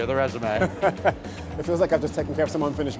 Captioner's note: Adrian laughs